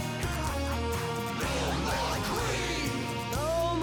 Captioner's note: crowd